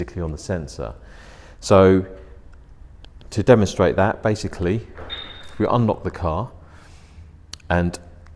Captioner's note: beep